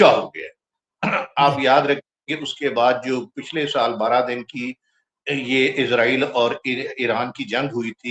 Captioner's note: clears throat